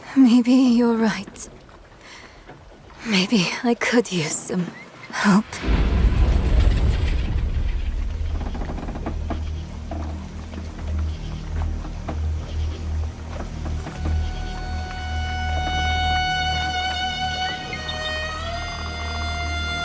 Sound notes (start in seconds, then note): 10.3 boat creaking; 15.3 soft dramatic music